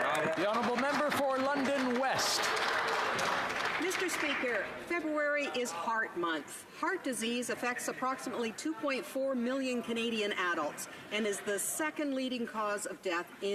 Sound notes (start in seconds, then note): 3.3 some Applause